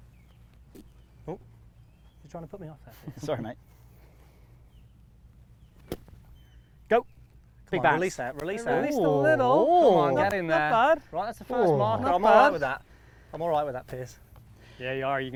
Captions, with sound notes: (golf balls thudding) Oh, you're trying to put me off here. - Sorry mate. (golf club thwacking) Go, come on, release that, release that. - It released a little. - Come on, nothing there. Right, that's the first marker. I'm all over that. I'm all over that, Piers.